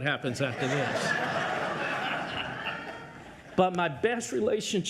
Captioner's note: audience laughs